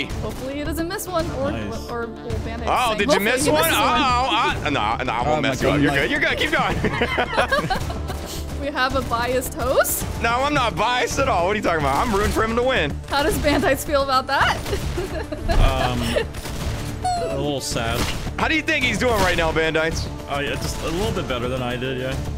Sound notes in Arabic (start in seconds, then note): 5.6 يضحك; 14.3 يضحك